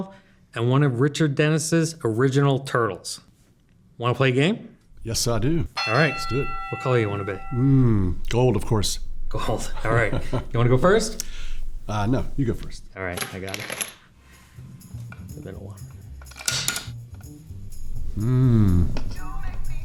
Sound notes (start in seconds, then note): 7.8 bell ring